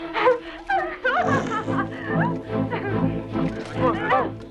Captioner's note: Hundra laughing